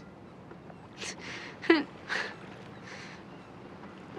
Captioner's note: sniffling